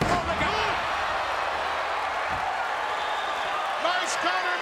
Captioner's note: audience cheers